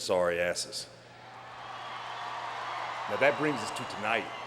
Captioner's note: crowd cheering